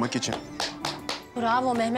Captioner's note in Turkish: Alkış Sesi